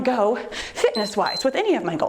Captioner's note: timer beeps